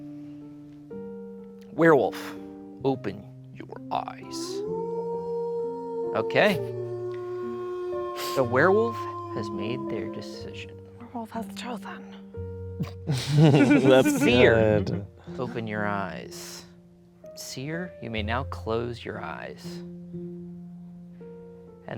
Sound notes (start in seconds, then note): 0.1 soft music; 4.6 werewolf howling; 13.1 everyone laughing; 19.8 soft music